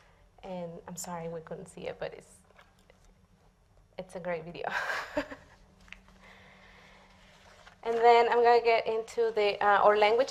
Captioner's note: laughs